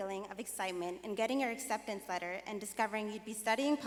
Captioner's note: none